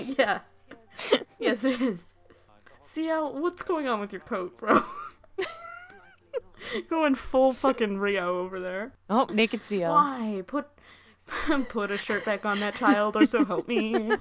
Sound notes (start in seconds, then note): 0.6 laughing; 4.6 laughing; 11.3 sigh; 11.7 singing